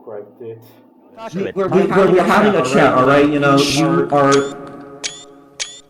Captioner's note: In TF2's voicechat